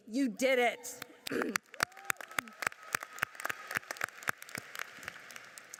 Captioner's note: audience cheers and applauds